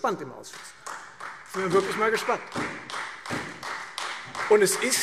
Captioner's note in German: Beifall Freie Demokraten und SPD